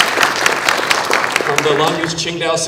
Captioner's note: applause